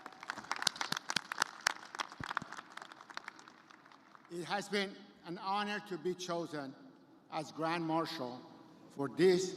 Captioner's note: cheers and applause